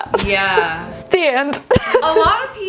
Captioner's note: laughs